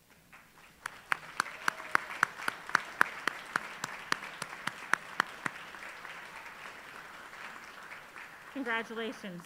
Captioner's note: applause